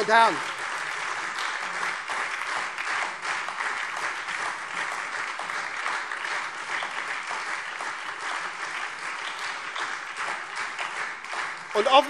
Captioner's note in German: Beifall SPD und Freie Demokraten